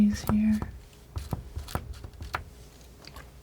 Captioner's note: scratching